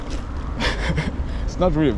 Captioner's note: chortles in excitement